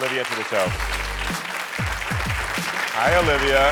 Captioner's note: audience cheering